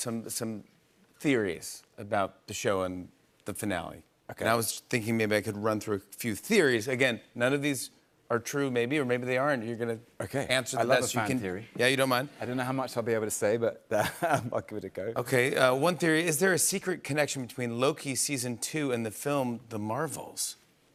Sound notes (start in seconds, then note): 13.9 chuckles